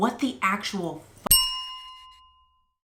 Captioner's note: bell chime